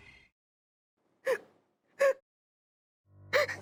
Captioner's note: Yamini sobbing